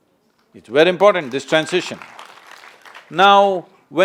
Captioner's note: applause